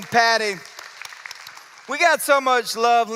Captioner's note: applause